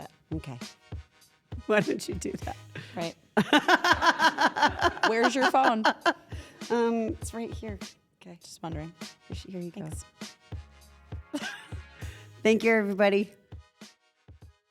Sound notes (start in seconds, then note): 3.4 laugh